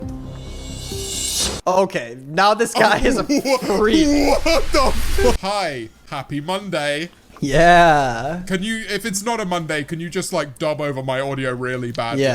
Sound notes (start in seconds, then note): 0.1 tense music; 2.7 both laughing